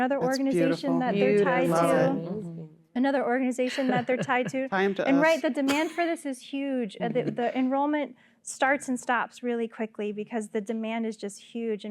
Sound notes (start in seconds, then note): 3.6 laughter